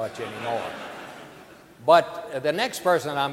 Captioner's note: audience laughing